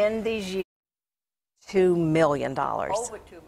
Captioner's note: sound cuts out